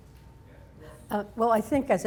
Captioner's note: voiceover